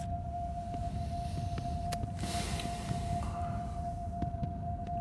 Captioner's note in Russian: вздыхает